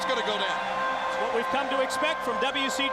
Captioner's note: crowd cheering